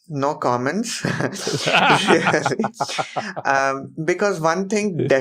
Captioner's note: both laugh